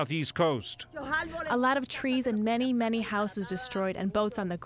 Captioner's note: through translator